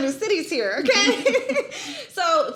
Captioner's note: laughs; laughing